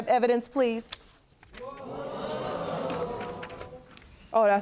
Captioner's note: audience groaning